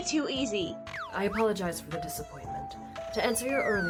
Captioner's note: slide whistle; slide whistle